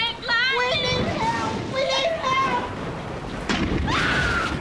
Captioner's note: thunder booms, Bonnie shrieks